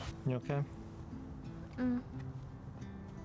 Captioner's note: sighs